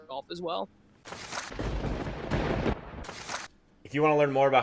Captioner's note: papers shuffle; thunder booms